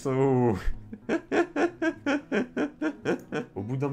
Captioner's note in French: Rires